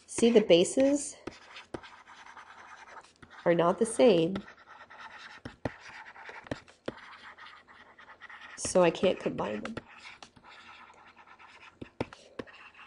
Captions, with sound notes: See, the bases, (scribbling) are not the same, so I can't combine them. (scribbling)